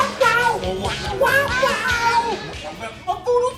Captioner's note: laugh